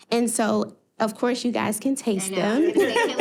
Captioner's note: laughing